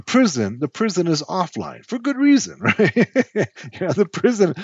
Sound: laughs

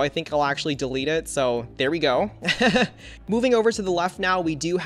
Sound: laughs

